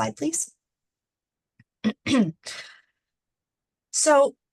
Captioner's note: clears throat